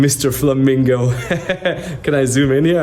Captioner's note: laughs